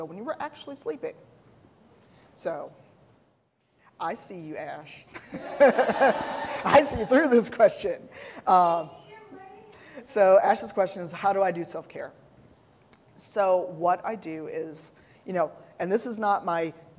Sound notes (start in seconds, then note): 5.2 laughing; 5.3 audience laughing